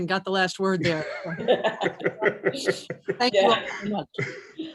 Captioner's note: all laughing